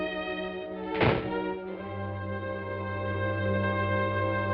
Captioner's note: suspenseful music; door shuts